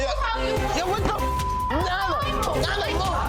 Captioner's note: beeps